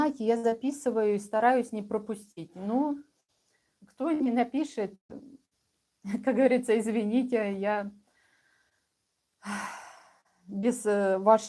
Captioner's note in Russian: вздыхает